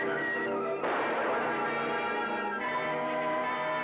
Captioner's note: gun blasting